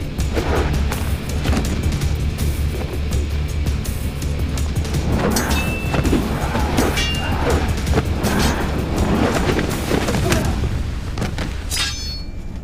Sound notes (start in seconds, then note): 5.2 metal clinking; 8.2 whooshing; 10.3 thudding